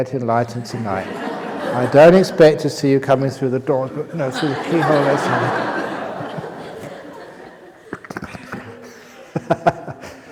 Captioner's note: laughter